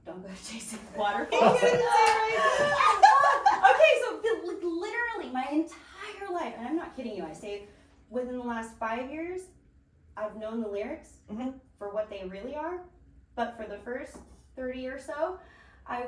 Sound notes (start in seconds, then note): 0.9 laughing